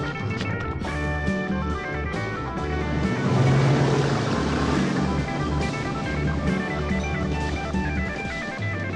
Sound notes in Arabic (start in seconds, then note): 2.6 رشات الماء